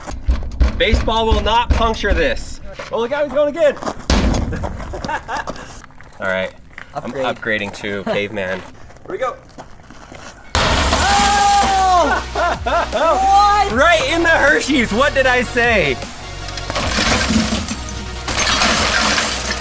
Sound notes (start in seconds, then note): 3.8 baseball bangs; 10.5 glass shatters; 16.0 glass breaking